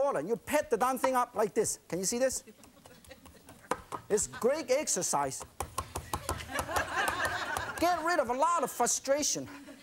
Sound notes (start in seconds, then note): 6.3 laughing